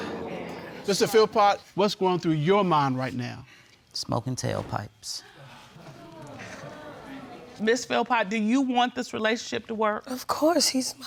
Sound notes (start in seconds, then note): 0.3 crowd exclaiming; 5.3 crowd muttering